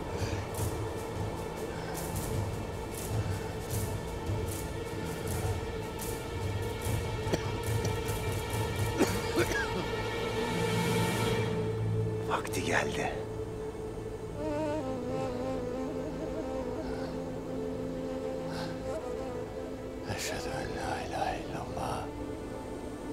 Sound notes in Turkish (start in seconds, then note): 0.2 Müzik - Gerilim; 8.9 Öksürme sesi